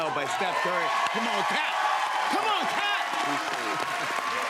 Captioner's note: cheers and applause